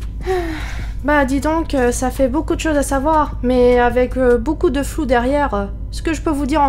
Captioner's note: sigh